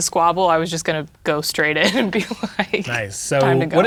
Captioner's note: laughing